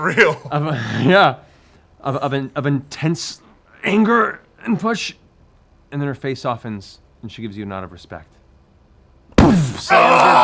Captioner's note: thud